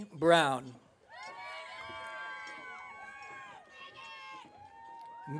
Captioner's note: audience cheering